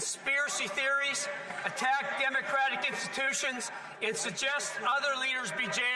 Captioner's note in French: voix de l'interprète